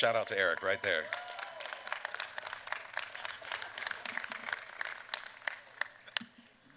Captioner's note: applause